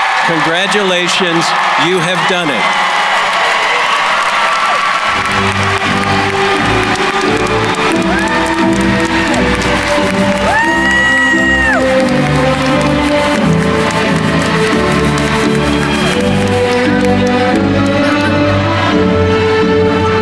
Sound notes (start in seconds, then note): 3.3 attendees cheering and applauding; 6.5 ceremonious music